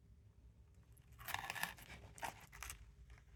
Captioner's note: crispy crunch